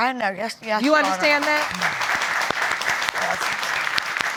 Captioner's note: applause